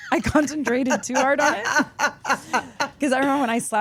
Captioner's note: Steph laughs